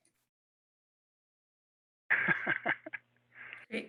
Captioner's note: speaker laughing